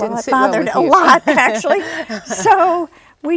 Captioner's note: laughs